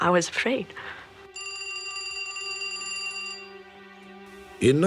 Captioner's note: telephone ringing